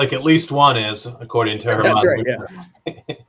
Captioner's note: laughter